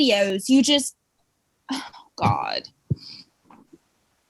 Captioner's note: exasperated sigh